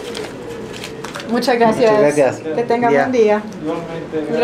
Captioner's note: in Spanish